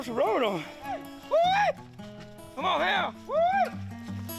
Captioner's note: men whooping